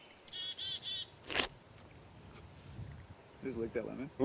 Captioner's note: slurps